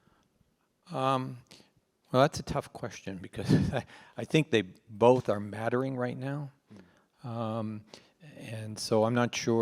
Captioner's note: laughs